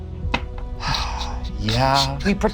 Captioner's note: sighs